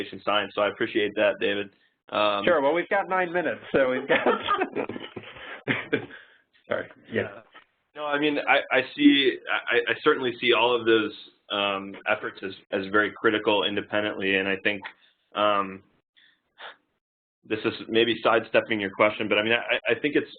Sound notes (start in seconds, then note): 3.8 laugh